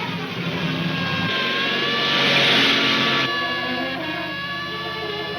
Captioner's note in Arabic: سيارة تهتز بشدة